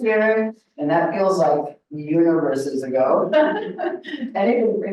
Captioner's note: laughs